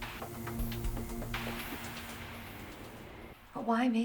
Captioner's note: crickets chirping